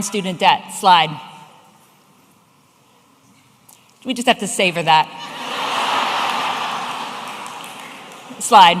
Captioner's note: audience laughing